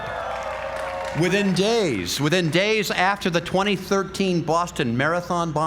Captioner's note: applause